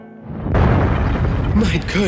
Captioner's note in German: Explosion